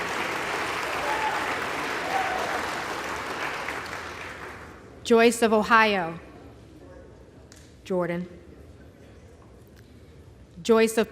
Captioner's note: applause